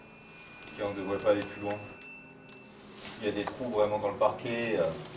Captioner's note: speaks French